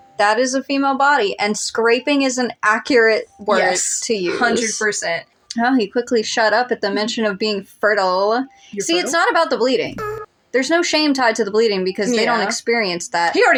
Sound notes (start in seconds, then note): 9.9 moan